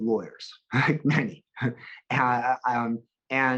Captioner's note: chuckles